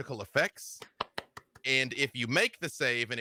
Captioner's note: claps